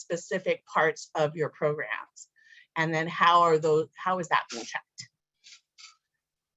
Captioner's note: distorted audio